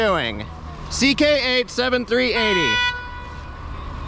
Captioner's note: honking